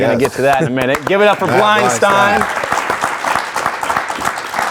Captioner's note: audience applauding